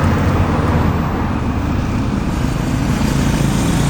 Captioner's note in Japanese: 車の音